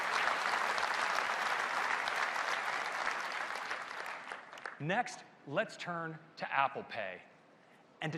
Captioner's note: applause